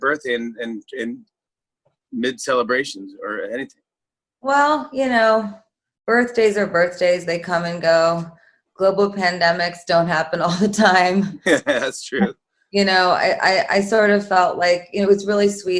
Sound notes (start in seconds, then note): 11.4 chuckling